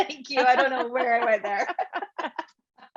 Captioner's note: voice drowns in laughter